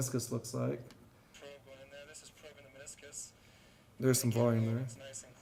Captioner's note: computer Voice